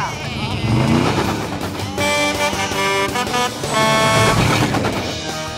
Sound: horn honking

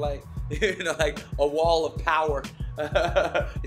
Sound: laughs

